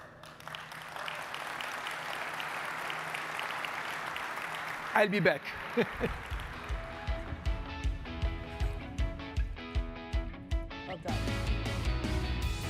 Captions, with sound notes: (audience clapping) I'll be back. (chuckles) (upbeat music) - Well done.